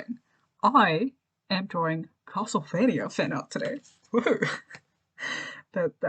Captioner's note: laughs